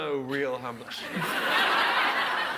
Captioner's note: audience laughs